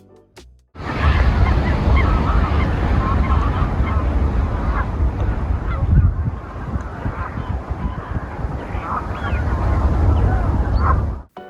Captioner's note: birds